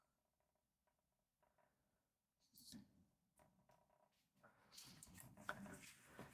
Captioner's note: silence